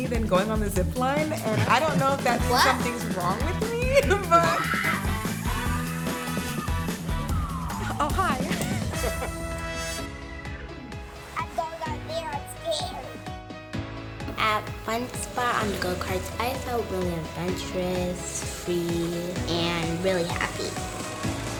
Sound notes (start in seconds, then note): 4.4 screaming; 7.8 man laughs; 21.3 upbeat music